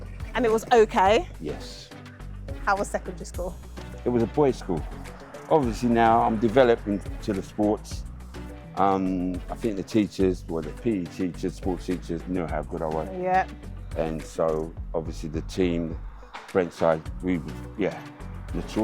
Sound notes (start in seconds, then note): none